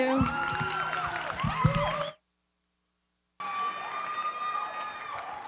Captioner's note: applause